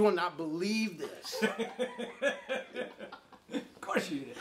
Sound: laughing

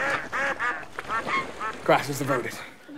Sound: plopping sound; ducks quack

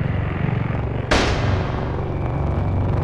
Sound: gunshot

